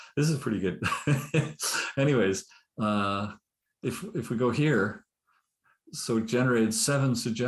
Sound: laughs

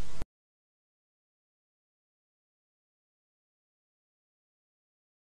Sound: silence

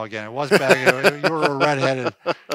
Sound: laughing

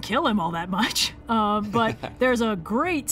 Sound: laughs

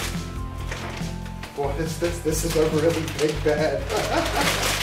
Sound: laughs

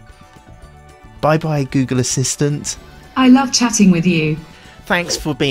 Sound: google voice

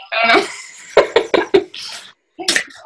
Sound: laughs

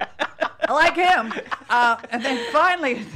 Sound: laughing

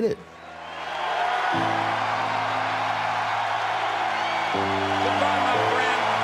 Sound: crowd cheering

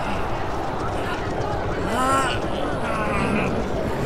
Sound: grunting

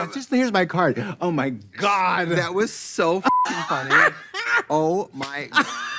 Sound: beep

